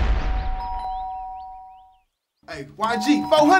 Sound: doorbell

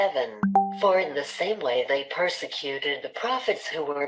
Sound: chat notification sound

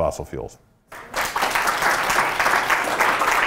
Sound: applause

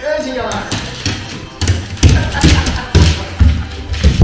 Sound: laughs

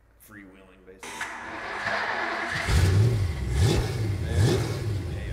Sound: engine revving

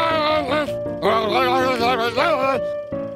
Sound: angry yelling

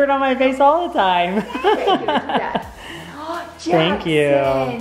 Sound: laughs

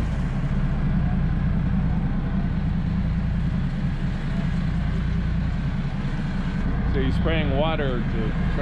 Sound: boat engine running

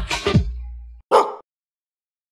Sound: dog bark

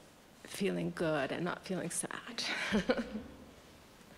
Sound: laughter

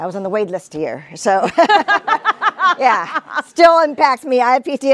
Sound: all laugh

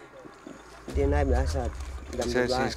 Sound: speaking Indonesian

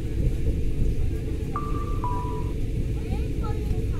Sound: electronic chime

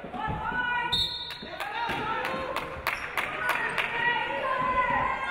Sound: referee blows whistle

